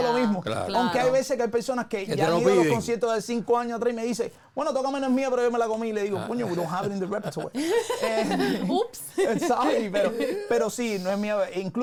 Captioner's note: laughs